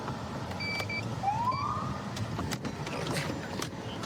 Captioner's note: siren chirps